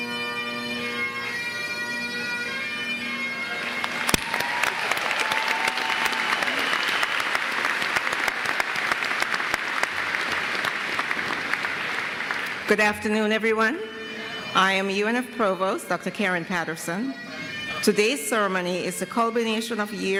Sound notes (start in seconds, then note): 3.6 applause